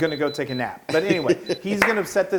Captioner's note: laugh